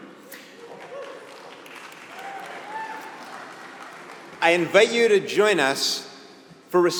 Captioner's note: applause